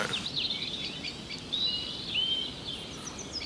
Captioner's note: gentle wind, birds, occasional sheep